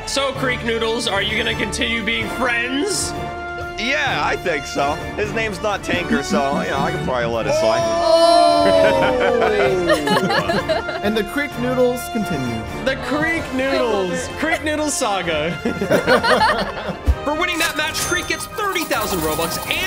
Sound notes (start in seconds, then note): 9.3 laughs; 15.2 group laughs